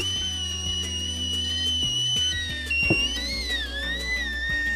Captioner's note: tea kettle whistles